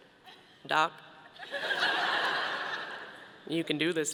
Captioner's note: audience laughing